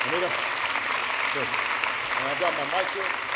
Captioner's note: applause